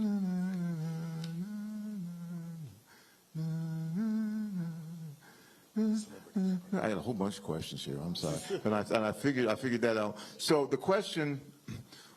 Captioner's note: laughter